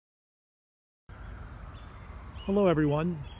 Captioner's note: birds chirping